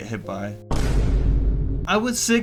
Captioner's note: boom